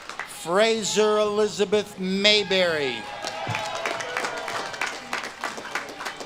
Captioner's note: audience claps and cheers